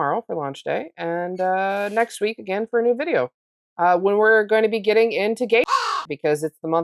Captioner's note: caw